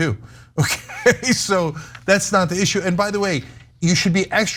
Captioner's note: laugh